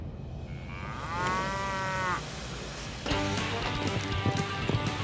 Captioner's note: steer moos